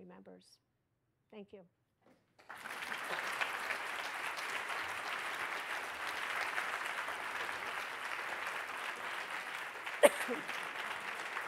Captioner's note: applause